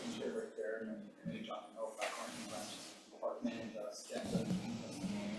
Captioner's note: faintly speaking